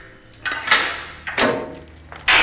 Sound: gate unlocks

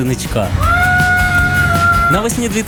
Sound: screaming

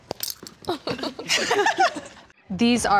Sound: laughter

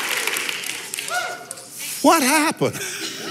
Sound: cheering

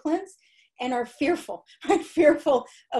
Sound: laughter

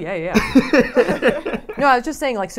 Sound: laughs

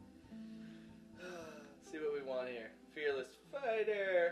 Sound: sighs

